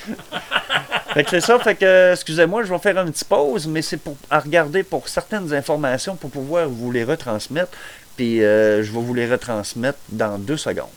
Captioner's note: laugh